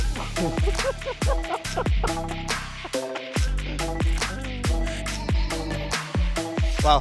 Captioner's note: laughing